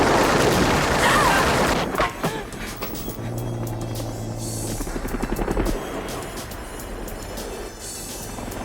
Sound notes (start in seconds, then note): 1.0 Donna yelping